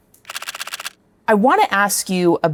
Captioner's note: camera shutter clicks